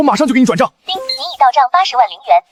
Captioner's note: ping